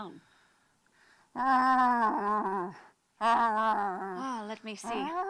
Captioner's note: grunting and mumbling